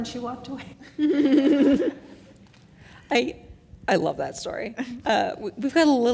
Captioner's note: laugh